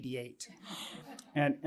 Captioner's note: laughter